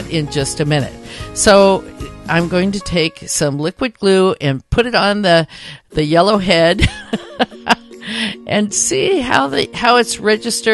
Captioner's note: chuckle